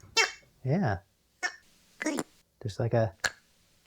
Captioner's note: toy sounds